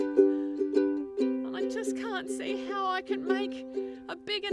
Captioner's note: speaks